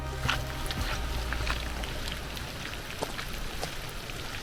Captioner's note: rain pouring